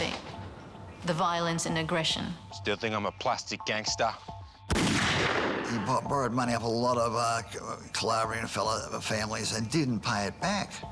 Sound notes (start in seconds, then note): 4.7 gun fires